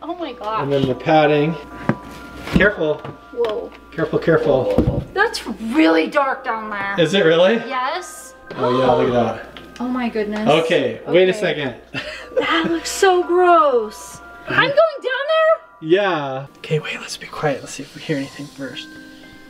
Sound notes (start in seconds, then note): 3.2 eerie tones; 11.9 inhales